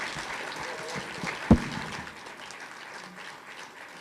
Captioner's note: applause